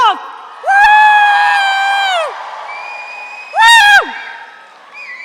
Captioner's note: audience cheers